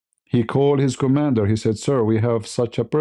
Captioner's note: none